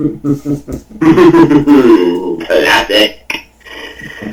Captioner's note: chuckles